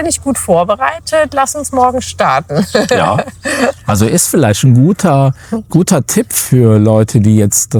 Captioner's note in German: gelächter